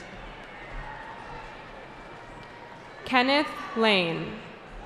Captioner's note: cheering